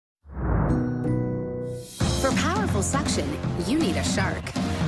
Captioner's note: whooshing